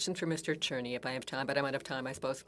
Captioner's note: speaking French